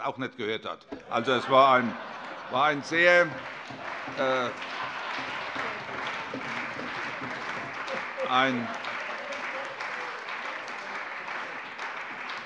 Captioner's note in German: Heiterkeit und allgemeiner Beifall